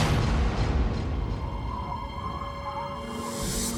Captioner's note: wind blowing